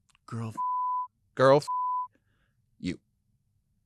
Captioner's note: beep